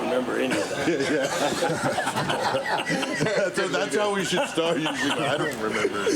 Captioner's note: laugh